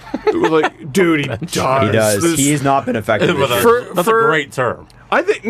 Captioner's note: laughs